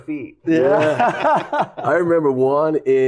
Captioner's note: laughter